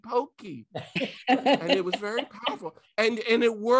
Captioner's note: laughing